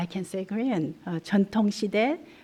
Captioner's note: korean